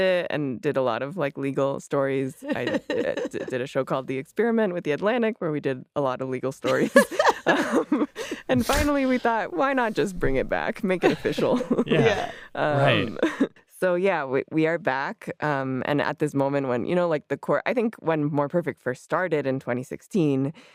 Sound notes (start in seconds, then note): 6.7 laughs